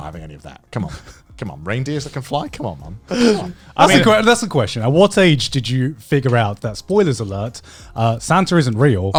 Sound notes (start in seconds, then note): 3.1 chuckling